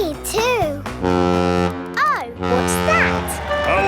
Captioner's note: horn bellowing